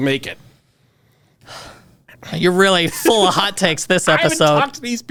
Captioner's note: sighs